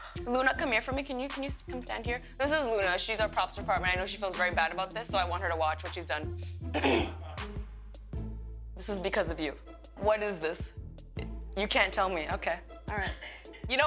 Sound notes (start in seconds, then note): 6.7 clears throat